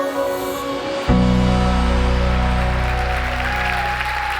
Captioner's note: upbeat music; applause